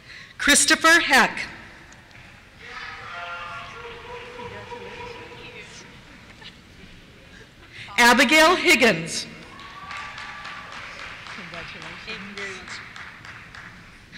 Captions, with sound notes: Christopher Heck. (cheers) Abigail Higgins. (cheers) Congratulations. - [Voiceover] Thank you very much.